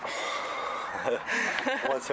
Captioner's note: laughter